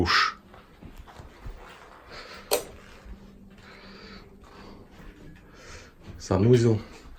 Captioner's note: sounds of movement